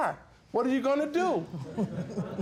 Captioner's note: audience chuckling